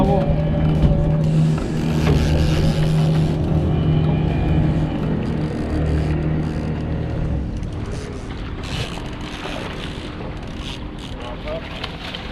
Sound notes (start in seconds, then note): 2.5 reel cranking; 7.8 fish splashing